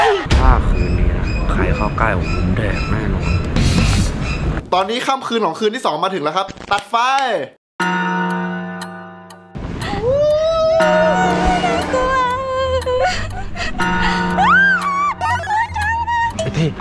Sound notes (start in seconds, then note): 7.8 clock chiming; 8.7 tense music builds; 10.0 howling; 12.9 gasping; 14.3 screams